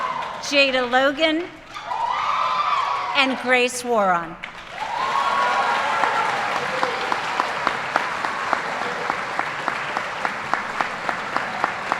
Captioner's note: applause